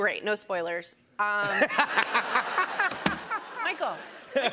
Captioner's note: laughs